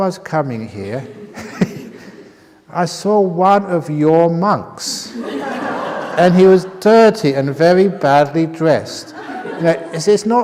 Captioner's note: laughter